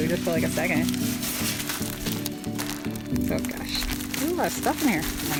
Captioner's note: rustling noise